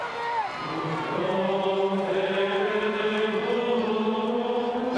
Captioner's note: group chanting